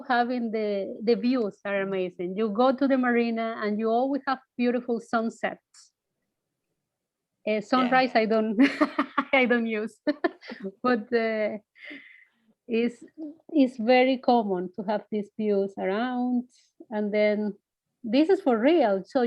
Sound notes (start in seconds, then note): 8.6 chuckles